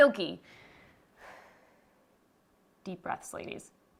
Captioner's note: exhales